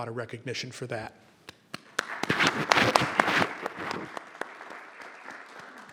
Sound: audience applauding

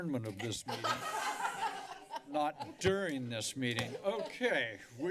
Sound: laughter

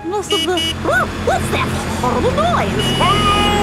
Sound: honking

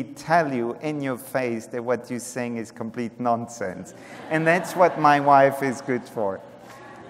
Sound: laughter

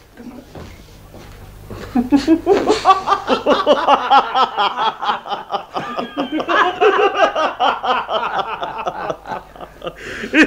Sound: everyone laughs heartily

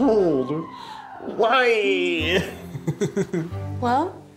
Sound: chuckle

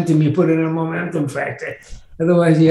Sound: none

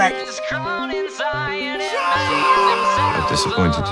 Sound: shouting

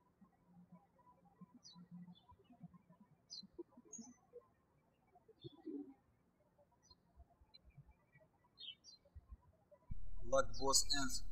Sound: birds chirping

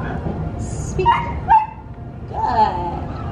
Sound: barking

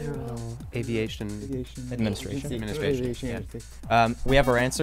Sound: wispering

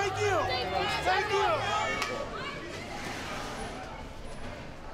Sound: crowd cheering

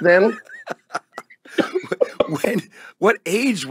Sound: both laugh

